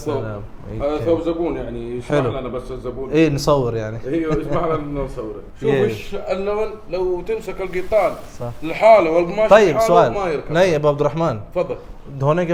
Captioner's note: Arabic